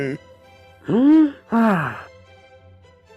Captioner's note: Professor Williams inhales and exhales